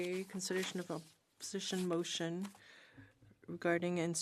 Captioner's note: speaking in French